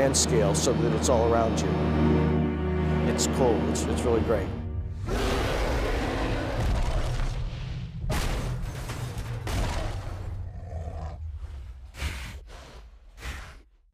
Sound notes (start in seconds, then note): 5.0 roar; 7.7 banging; 11.3 snorting